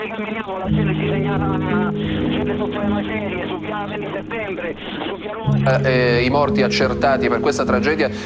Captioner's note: italian news broadcast about the disaster